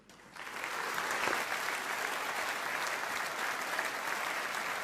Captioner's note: audience applauding